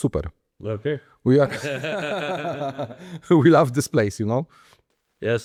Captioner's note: laughter